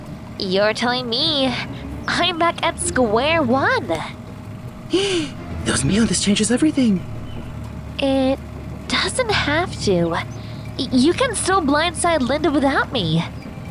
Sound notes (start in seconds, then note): 4.8 in Spanish; 4.9 gasps; 5.8 in English